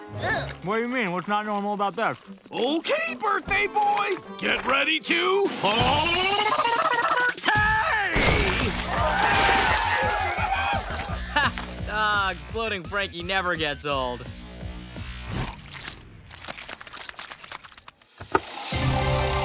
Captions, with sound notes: What do you mean? What's not normal about that? Okay, birthday boy, get ready to p-p-partay! [cheering] Ha. Exploding Frankie never gets old.